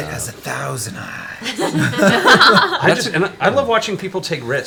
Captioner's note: all laugh